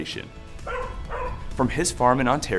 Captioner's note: dog barking